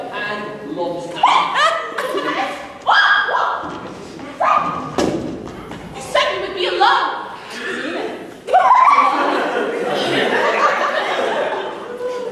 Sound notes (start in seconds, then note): 3.0 aziraphale yells; 10.2 aziraphale sighs